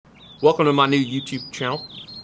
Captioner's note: texas accent